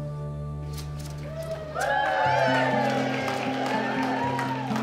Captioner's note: crowd cheers; peaceful guitar music